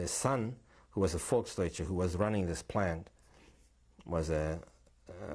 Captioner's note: non-english